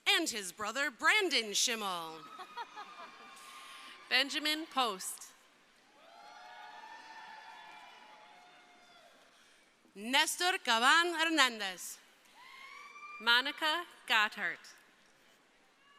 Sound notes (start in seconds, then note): 2.3 laughing; 5.8 crowd cheering; 12.1 crowd cheering